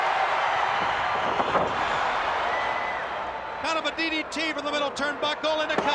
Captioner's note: crowd cheering